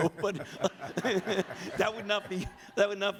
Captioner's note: audience laughs